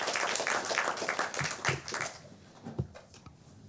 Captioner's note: applause